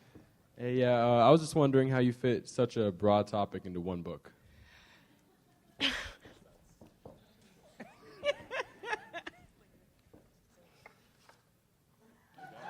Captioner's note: audience laugh